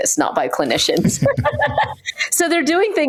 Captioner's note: laughs